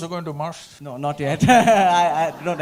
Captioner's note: Laughs